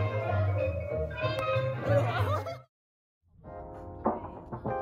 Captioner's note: bump